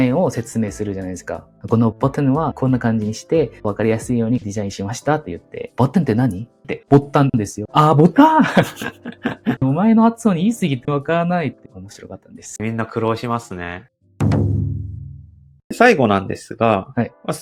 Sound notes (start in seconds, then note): 8.2 laughs